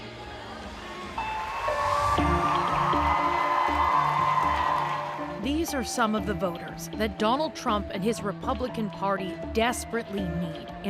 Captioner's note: cheers and Applause